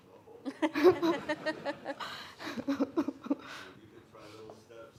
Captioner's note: everyone laughing